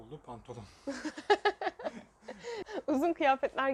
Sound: chuckling

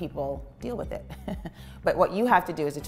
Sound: chuckling

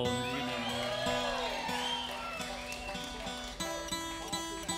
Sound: audience applauding

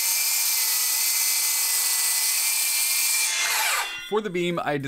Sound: circular saw being used

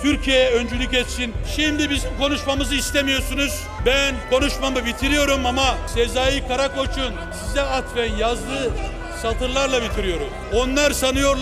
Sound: Noises from AK PARTY benches

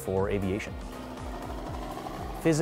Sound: helicopter sounds

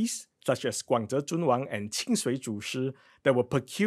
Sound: speaking in foreign language

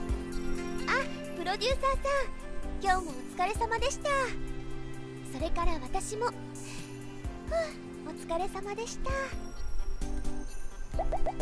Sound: sigh

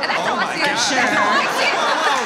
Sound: audience applauds

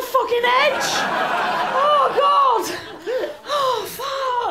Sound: laughter

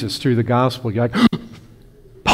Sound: gasp

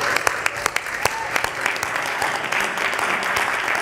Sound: applause

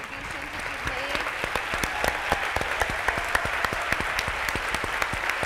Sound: audience applauds

